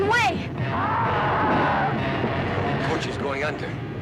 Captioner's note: dinosaur roaring